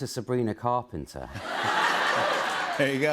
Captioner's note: laughter